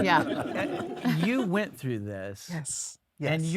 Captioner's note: audience laugh